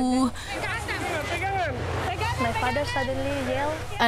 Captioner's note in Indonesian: suara keributan